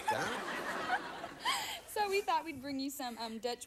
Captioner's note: audience laughing